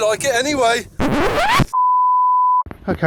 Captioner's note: record scratch!